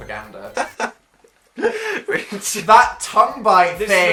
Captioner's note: giggling